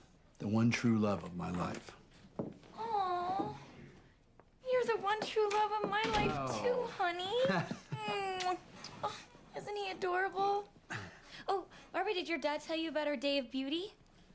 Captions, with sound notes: the one true love of my life. Aw! You're the one true love of my life, too, honey. [Smooches] Oh, isn't he adorable? Oh, Barbie, did your dad tell you about our day of beauty?